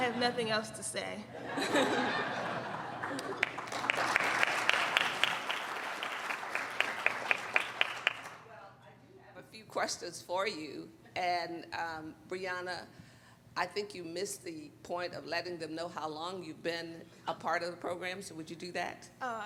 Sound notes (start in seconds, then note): 2.9 applauding